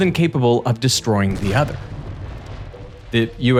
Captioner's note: explosion booms